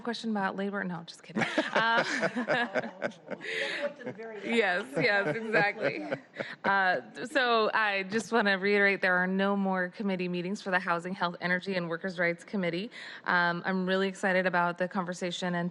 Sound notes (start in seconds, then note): 6.2 laughter